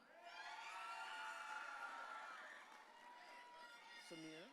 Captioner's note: audience cheering